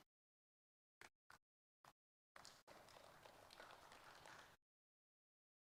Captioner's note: audience applauding